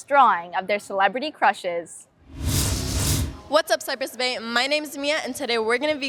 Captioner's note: swooshing sound